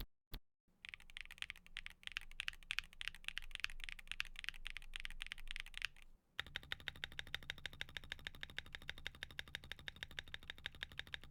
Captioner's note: typing